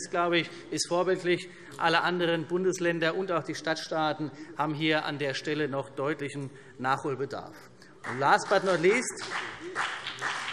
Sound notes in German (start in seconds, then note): 8.0 Beifall CDU und BÜNDNIS 90/DIE GRÜNEN